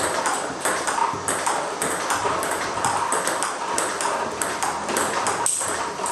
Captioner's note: ball ping pong hitting continues